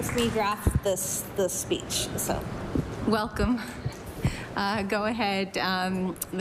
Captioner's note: applause